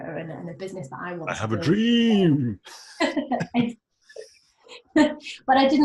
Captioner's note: laughing